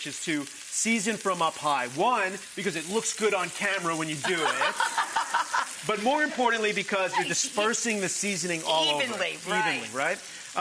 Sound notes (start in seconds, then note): 4.2 laughing